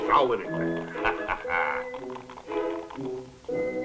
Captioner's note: laughing